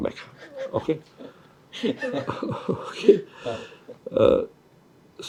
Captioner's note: laughs